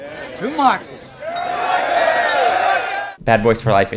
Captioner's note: group cheers